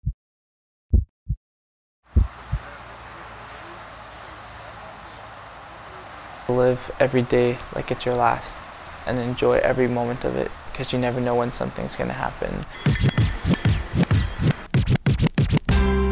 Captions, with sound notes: - [Voiceover] Live every day like it's your last. And enjoy every moment of it, 'cause you never know when something's gonna happen. (upbeat instrumental music)